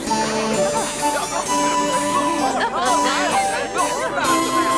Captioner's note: whimsical dance music; people chatting